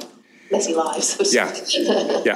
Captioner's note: laughs